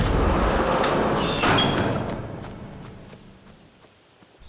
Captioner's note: barn door slams